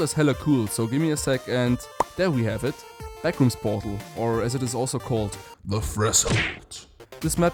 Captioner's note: pop